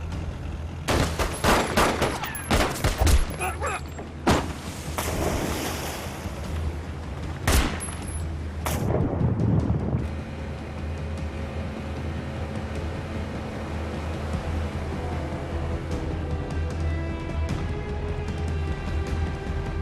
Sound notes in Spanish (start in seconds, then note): 0.9 Disparos; 3.3 Gritos y exclamaciones; 7.4 Disparos